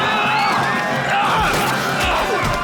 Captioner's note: Lex yelling; Lex slamming against truck; punching and grunting